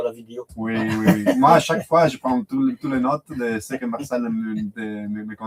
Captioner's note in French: rires